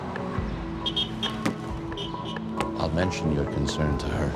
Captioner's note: horn honks